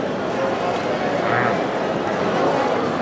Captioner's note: grunting